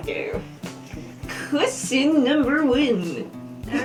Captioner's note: weird voice; laughter